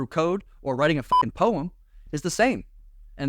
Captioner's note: beep